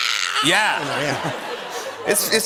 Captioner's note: laughter